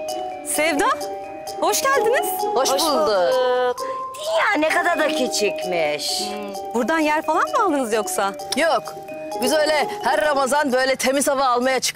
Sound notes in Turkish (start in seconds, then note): 2.3 Hep bir ağızdan